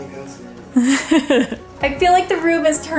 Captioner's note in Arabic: أمي تضحك